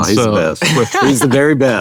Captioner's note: laughs